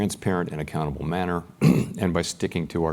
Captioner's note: cough